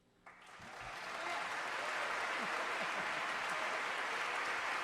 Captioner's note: applause